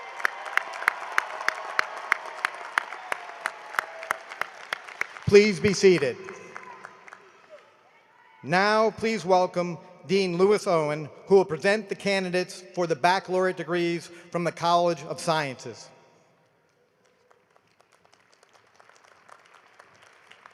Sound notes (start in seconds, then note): 3.3 cheering and applause